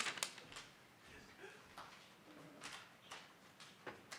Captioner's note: paper crackling